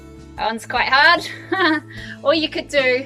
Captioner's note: laughs